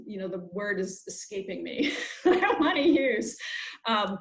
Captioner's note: laughs